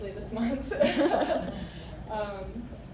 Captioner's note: laughter